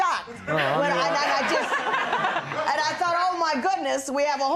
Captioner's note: laughter